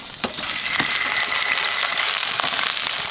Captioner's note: sizzling